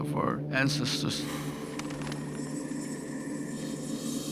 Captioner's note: wings fluttering